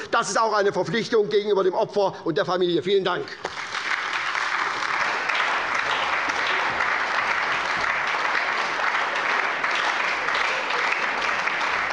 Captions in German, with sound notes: - Das ist auch eine Verpflichtung gegenüber dem Opfer und der Familie. - Vielen Dank. [Lebhafter Beifall bei der SPD und der LINKEN]